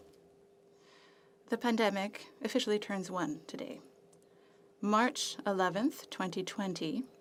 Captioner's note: speaking French